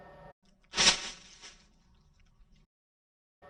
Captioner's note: blast